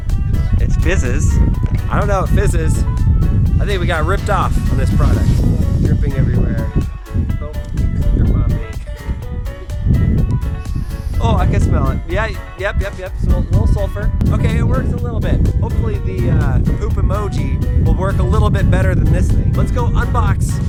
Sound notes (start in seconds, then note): 10.5 inhales